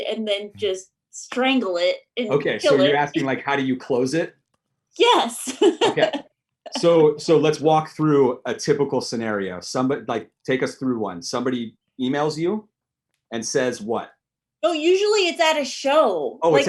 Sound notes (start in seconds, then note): 5.4 laughs